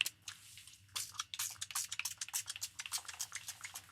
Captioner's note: spray bottle sounds numerous times